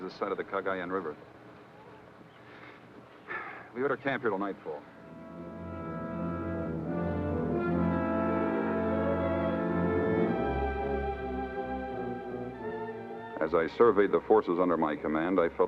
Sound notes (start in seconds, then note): 3.2 sighs; 5.8 deep somber music